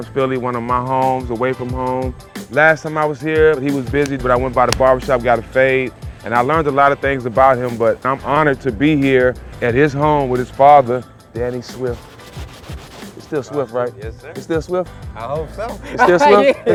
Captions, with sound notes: Fight Town, Philly. One of my homes away from home. Last time I was here, but he was busy but I went by the barbershop, got a fade and I learned a lot of things about him. But I'm honored to be here at his home with his father, Danny Swift. (hands rubbing) It's still Swift, right? - Yes, sir. - It still Swift? - I hope so. (laughing)